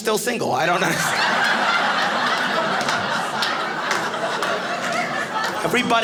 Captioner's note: audience laughing